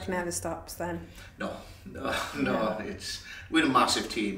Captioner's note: chuckles